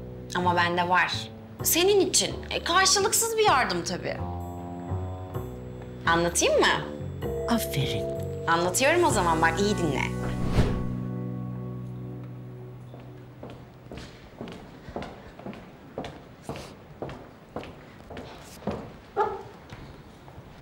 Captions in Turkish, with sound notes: Ama bende var. Senin için. Karşılıksız bir yardım tabii. Anlatayım mı? Aferin. Anlatıyorum o zaman. Bak, iyi dinle. (Yaklaşan ayak sesi)